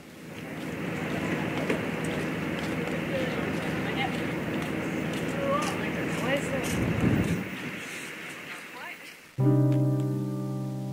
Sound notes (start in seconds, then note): 1.6 sound of footsteps outside